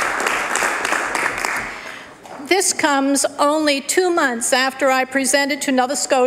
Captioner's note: applause